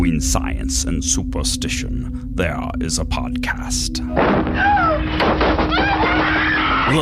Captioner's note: crashing, screaming